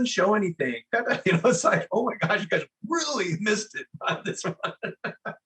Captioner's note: laugh